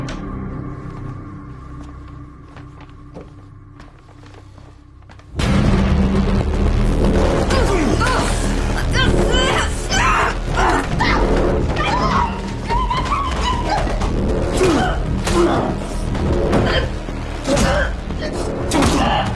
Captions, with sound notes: (Grunting) Stop! No! Get off! (Screaming)